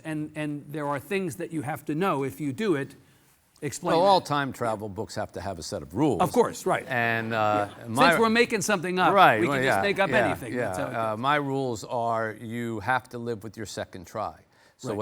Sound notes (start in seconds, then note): 6.7 audience laughing